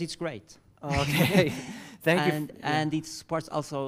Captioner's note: laugh